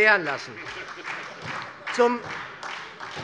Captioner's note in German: Beifall SPD